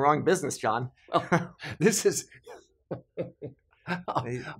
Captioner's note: laughs